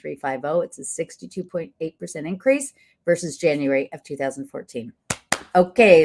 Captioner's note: claps